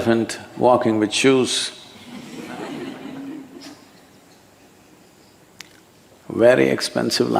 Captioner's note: laughter